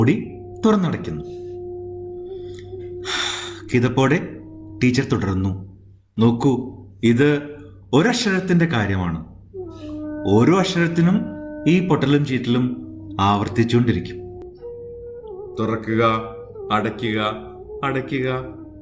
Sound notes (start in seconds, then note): 3.0 sighs